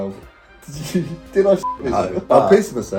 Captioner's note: beep